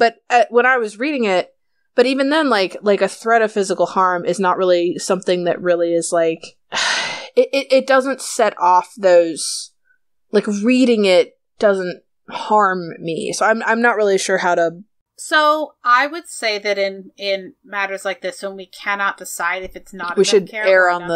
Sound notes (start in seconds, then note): 6.8 sigh